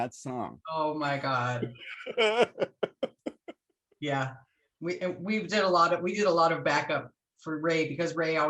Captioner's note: laughter